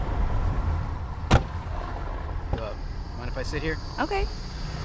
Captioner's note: car door slams